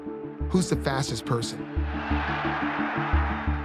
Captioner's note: cheers and applause